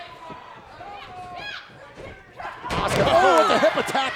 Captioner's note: wrestlers shout